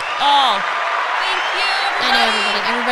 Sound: stammering; cheering sound

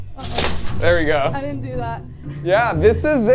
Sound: laughing

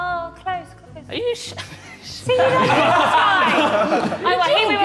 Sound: all laughing

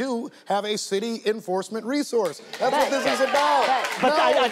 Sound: audience applauding

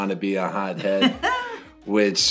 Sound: laughing

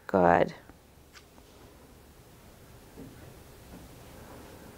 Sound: breathing heavily

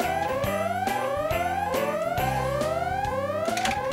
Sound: alarm blaring

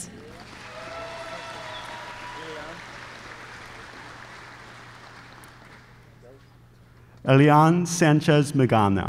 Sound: applause

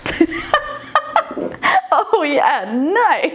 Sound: laughing

